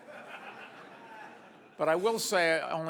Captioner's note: audience laughs